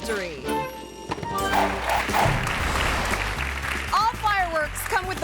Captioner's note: playful music; graphics whooshing; hands clapping